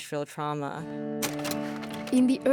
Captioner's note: slide projector clicks